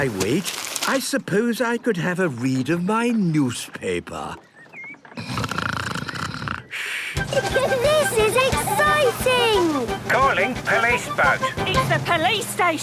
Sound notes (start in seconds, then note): 5.2 snoring; 7.2 giggling; 9.2 voice over radio